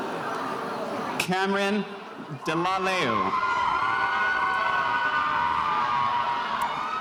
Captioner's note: spectators cheering